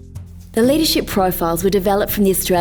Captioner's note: voiceover